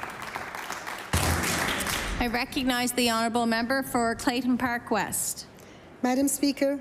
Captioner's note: applause